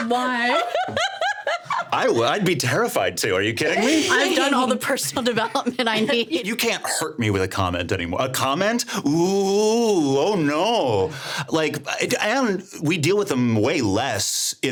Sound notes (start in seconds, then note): 0.0 laughing; 6.1 laughing